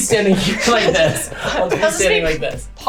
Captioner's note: laughing